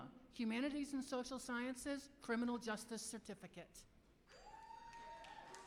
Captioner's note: applause